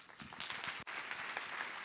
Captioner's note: audience applauds